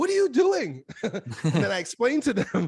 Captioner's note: both laughs